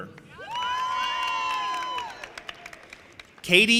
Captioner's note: audience applauding and cheering